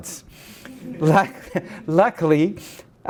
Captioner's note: laughing